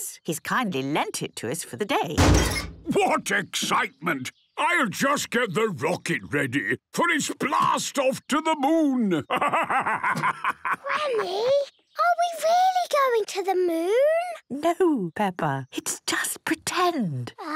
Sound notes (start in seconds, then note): 2.2 metallic door bursting; 10.5 whispers